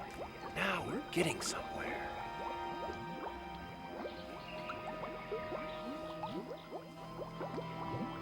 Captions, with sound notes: - Now we're getting somewhere. (bog bubbling)